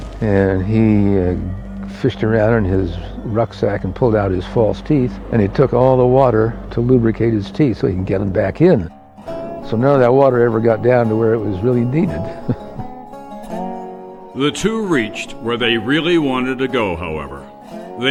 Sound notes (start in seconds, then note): 11.4 laughs; 13.0 jaunty music